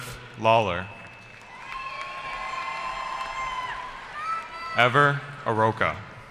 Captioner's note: cheering